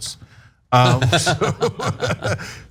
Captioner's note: laugh